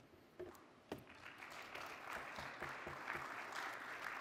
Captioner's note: applause